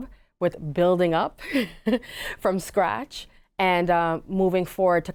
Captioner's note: giggles